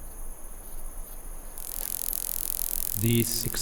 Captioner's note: sound of electric fish